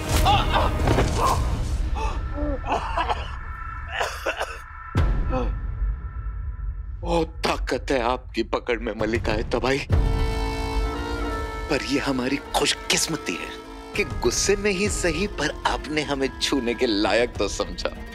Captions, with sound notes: Ah! [thud] [coughing] You have a strong grip, Queen of Destruction! I consider myself fortunate. Even though out of anger, you found me worthy of your touch!